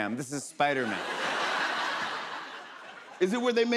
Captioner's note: laughter